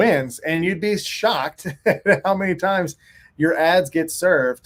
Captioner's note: laughs